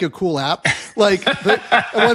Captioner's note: laugh